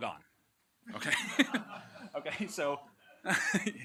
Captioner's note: laughter